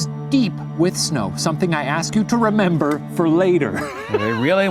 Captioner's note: laughs